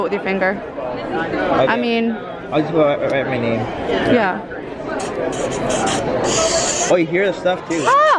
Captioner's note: pencil writing on paper sound